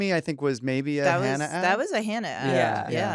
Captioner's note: all agreeing